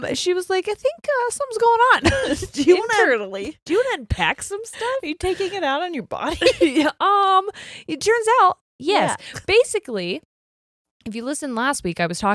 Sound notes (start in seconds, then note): 2.0 both laughing; 6.3 laughs